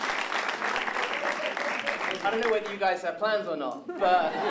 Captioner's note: laughter